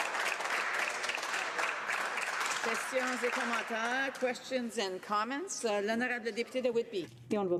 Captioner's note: applause